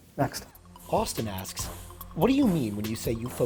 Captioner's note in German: Voice-over